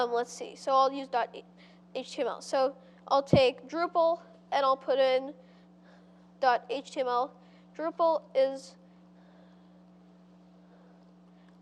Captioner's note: pause